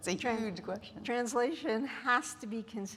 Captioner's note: none